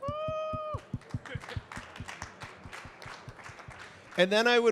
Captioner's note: audience clapping